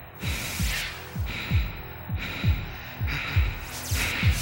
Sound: heavy breathing

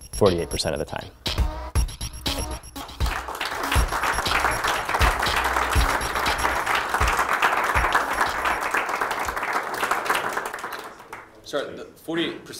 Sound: applause

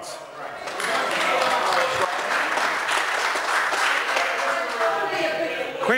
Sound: members applaud

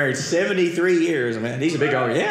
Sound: audience cheering

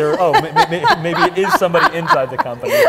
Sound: laughs

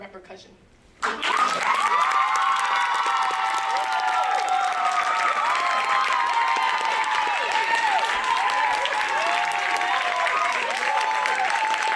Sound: applause

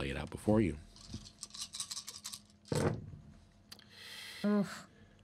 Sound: dice rattling

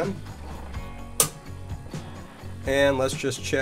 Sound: clicks

